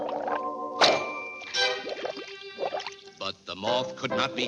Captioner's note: bubble pops; water bubbling